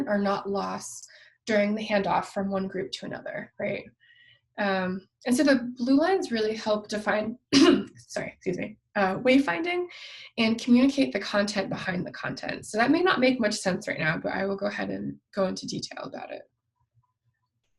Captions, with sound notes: are not lost during the handoff from one group to another. And so the blue lines really help define (coughs), sorry, excuse me, wayfinding, and communicate the content behind the content, so that may not make much sense right now, but I will go ahead and go into detail about it.